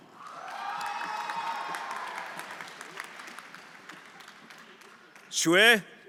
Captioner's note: everyone applauding and cheering